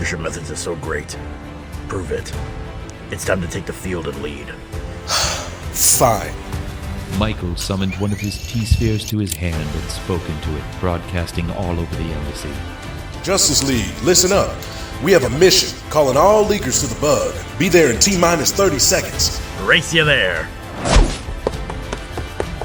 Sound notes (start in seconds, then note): 5.0 brief sigh